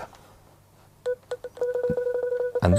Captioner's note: seeing ai beeping